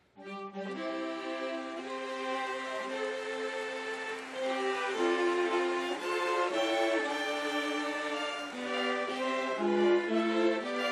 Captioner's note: applause